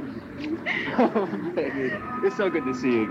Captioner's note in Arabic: كلاهما يضحك